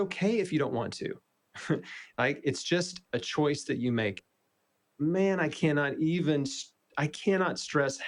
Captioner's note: laughs